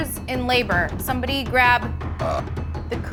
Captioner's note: burp